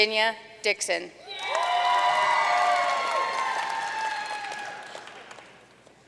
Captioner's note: audience cheering and applauding